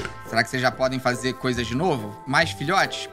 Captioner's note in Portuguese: none